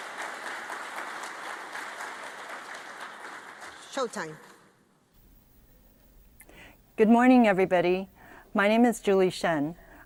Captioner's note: applause